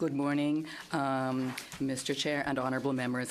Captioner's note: speaking in French